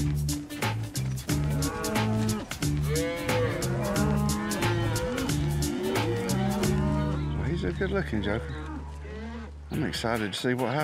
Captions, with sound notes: [MOOING] HE'S A GOOD LOOKIN' JOKER. I'M EXCITED TO SEE WHAT HAPPENS.